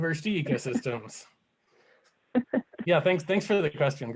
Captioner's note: laughter